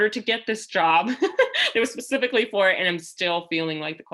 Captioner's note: laughter